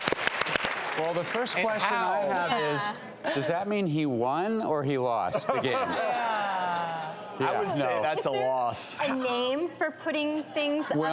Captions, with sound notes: Well the first question I have is does that mean he won or he lost the game? (audience laughing) I'd say that's a loss. Is there a name for putting things up there?